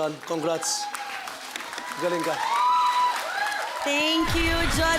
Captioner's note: crowd cheers, applauds